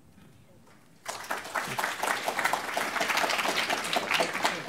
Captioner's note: applause